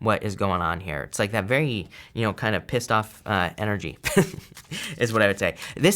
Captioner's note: chuckles